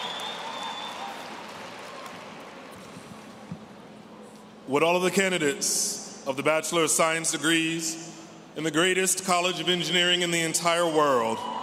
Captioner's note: cheers